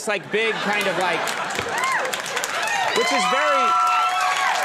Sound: audience cheering

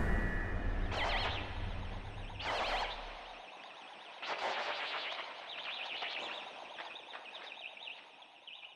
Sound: distorted audio

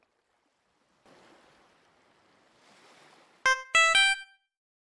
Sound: sound of waves

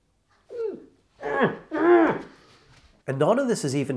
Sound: screams again

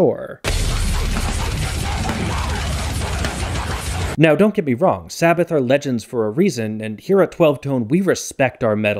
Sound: bang

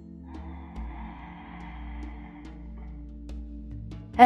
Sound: inhales

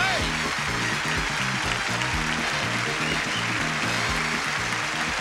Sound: audience applauding

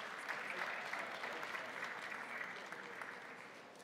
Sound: crowd applauding

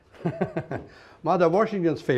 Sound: laughs

